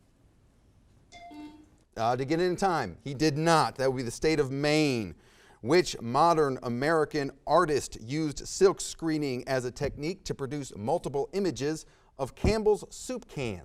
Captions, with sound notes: (buzzer sounds) (bell rings) Uh, did he get it in time? He did not, that would be the state of Maine. Which modern American artist used silk screening as a technique to produce multiple images of Campbell's soup cans?